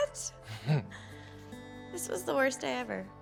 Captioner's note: Sean laughs